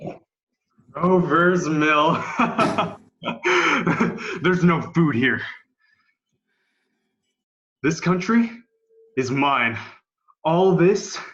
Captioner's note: laughs